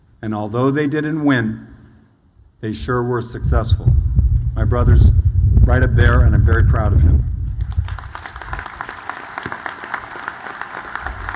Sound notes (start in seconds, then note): 7.6 audience applauds